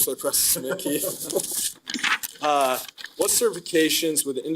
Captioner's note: all laughing